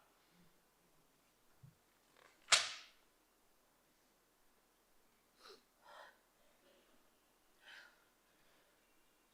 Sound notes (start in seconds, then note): 2.6 page clacks; 5.4 Diane sniffs and sobs